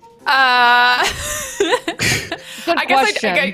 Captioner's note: giggles